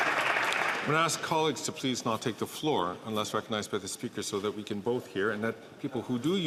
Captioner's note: some Applause